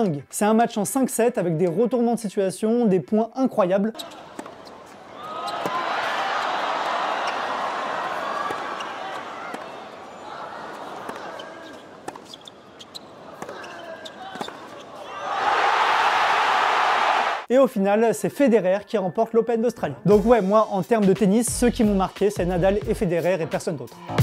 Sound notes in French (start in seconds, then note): 5.0 cris du public; 15.0 hurlements du public